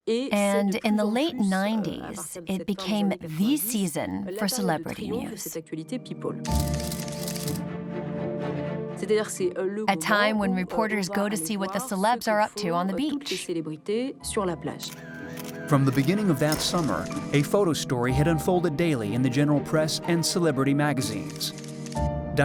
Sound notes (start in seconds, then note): 6.4 suspenseful music; 6.4 camera snaps